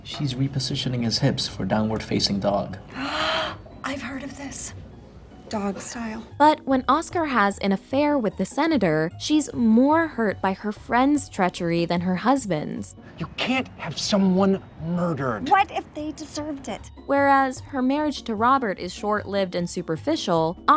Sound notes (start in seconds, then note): 2.9 gasps